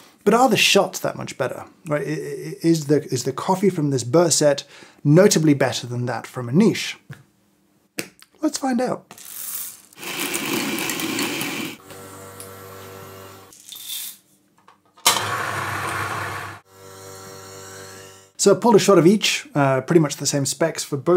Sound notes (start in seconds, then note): 9.1 beans grinding; 15.1 lid closing; 15.1 machine grinding